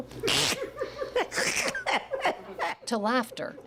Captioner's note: laughs